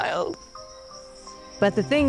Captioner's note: gentle music; insects chittering